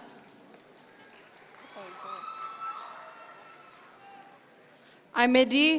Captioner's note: audience members cheer